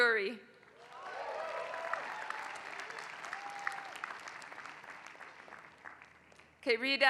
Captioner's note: applause